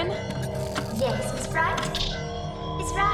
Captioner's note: circuits ripping